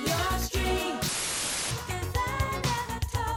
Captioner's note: static hissing